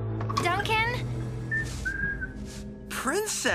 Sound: Duncan Whistling

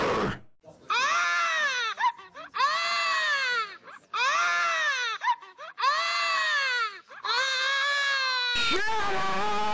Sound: baby crying

